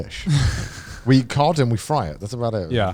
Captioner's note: laughs